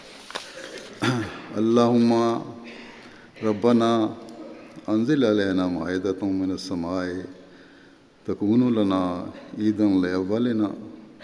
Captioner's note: Arabic